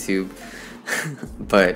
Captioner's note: laughs